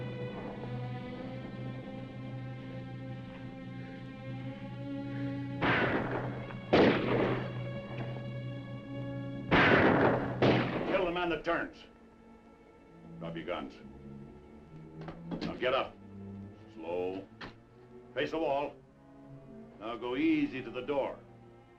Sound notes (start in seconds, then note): 0.1 dramatic music; 5.6 guns firing; 8.4 dramatic music; 9.5 guns firing; 14.3 dramatic music